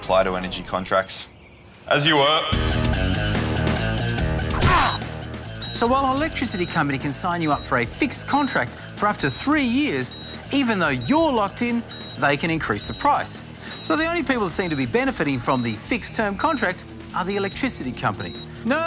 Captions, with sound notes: Doesn't apply to energy contracts. As you were. (Thud!) (Gasps) So while out electricity company can sign you up for a fixed contract for up to three years, even though you're locked in, they can increase the price. So the only people that seem to be benefiting from the fixed-term contract are the electricity companies.